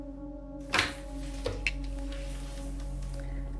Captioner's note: click